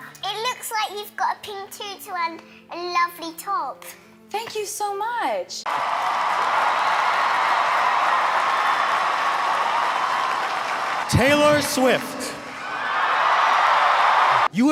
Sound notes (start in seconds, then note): 5.6 crowd cheering and applauding; 13.3 crowd cheering